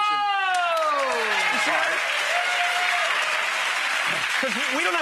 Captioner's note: audience cheers